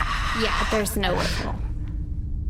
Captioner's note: Fluff sighs, pauses, and sighs again